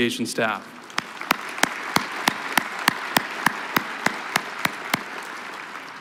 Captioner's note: applause